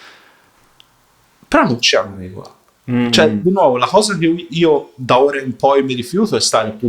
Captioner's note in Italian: schiarire la voce